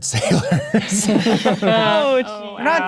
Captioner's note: players laughing